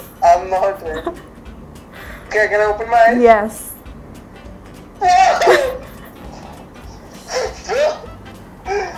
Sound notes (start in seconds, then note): 5.0 laughing